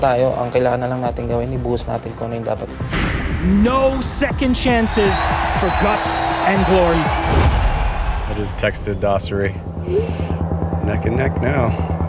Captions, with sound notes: We just need to give everything that's needed, okay? [man in English] No second chances for guts and glory. I just texted Dossery. Neck and neck now.